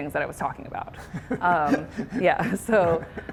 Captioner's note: laughter